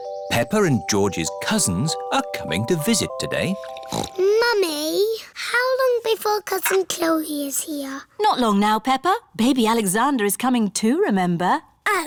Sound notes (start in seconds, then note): 3.7 snorts